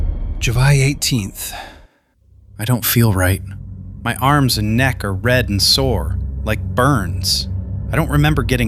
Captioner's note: sighs